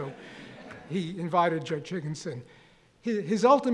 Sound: audience laughing

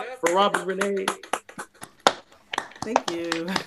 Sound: applause

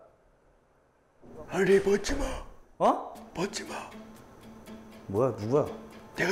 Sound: voice modulation

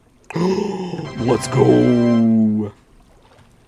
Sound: gasp

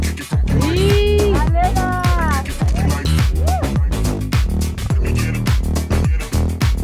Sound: cheering

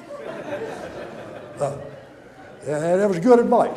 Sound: audience laughter

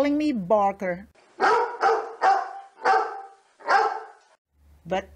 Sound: loud barking

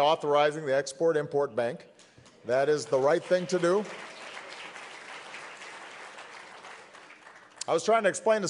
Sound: applause

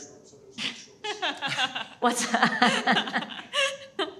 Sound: both laughing

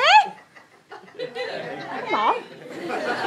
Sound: audience murmurs

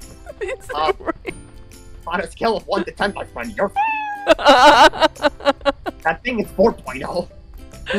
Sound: giggles hysterically

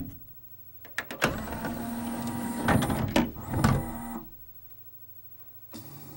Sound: machine ingests disc and spins up as before

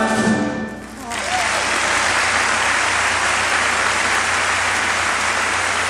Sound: audience clapping loudly

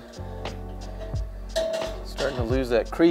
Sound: metal clangs

